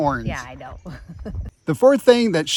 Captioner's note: laughing